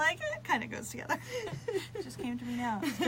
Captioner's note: both laugh